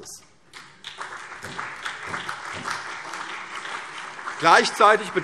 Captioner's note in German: Beifall CDU, vereinzelt BÜNDNIS 90/DIE GRÜNEN und SPD